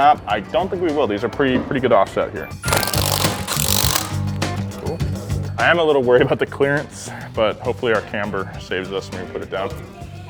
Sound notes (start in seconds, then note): 2.6 power drill buzzes